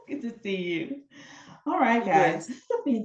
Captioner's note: laughing